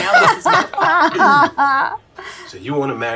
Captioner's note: both laughing